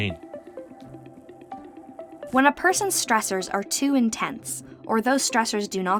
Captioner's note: voice-over